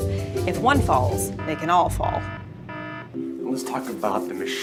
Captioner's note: alarm beeping